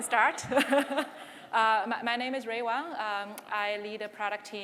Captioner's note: laughs